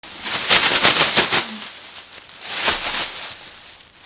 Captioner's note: rustling